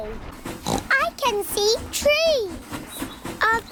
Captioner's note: oinks